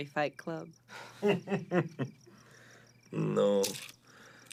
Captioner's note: Radovan laughs